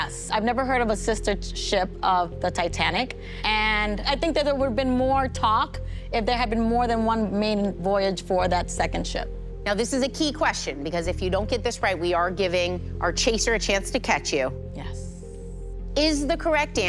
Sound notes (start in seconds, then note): none